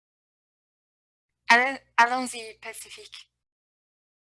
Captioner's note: speaking french